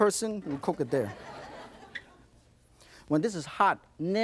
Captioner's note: audience laughs